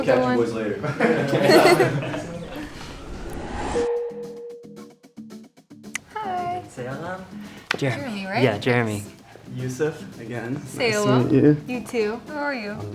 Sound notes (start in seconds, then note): 3.9 bell dinging